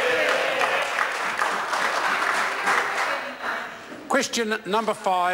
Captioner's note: members applaud